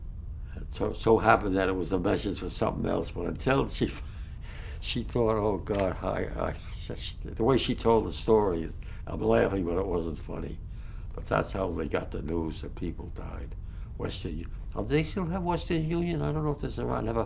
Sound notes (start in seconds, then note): 4.1 laughs